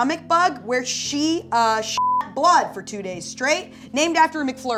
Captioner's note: beep